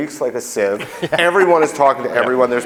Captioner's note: laughing